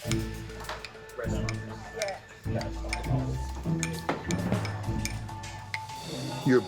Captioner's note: glass tinkling and people speaking indistinctly